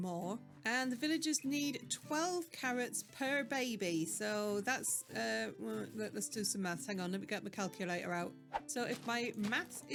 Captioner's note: thinking noise